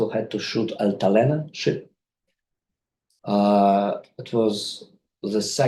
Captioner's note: speaks in foreign language